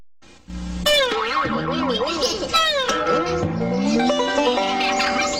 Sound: bouncing sounds; banjo music plays

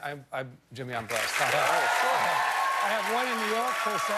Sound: cheers and applause

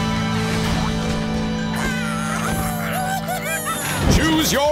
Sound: squeaking

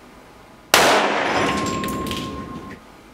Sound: explosion sound

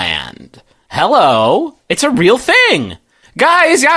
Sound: sarcastic

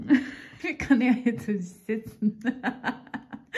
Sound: laughs

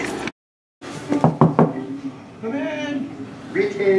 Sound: door knock

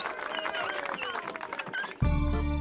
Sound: crowd cheering

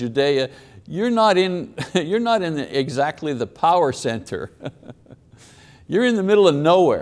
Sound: chuckles

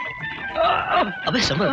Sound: groaning

